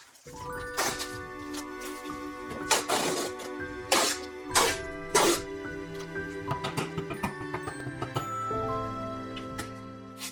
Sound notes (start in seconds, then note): 0.2 bright music; 2.6 tape flapping; 6.5 mallet pounding; 8.8 bright music; 10.0 glove scratching